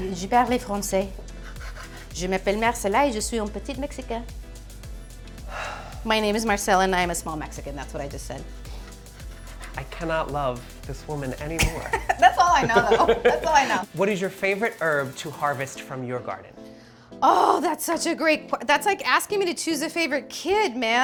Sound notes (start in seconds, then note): 0.1 Marcela speaks in foreign language; 5.5 sighs; 11.6 chuckles